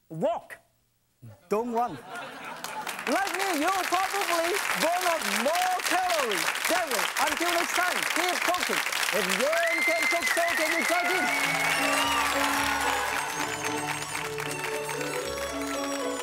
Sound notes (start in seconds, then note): 2.7 audience applauds; 9.5 audience cheers; 12.0 joyful music